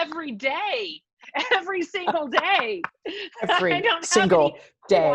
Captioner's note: laughs